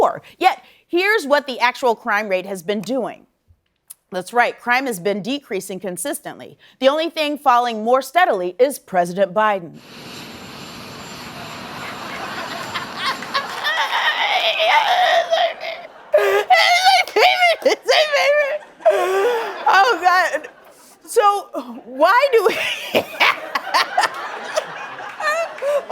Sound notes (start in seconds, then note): 13.8 laughter; 21.2 laughing